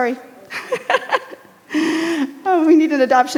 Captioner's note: laughs